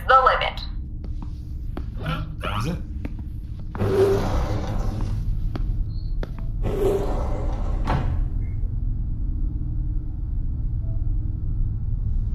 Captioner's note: door opens